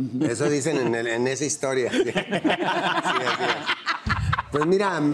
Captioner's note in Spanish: Risas